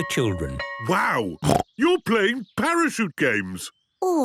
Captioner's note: snorting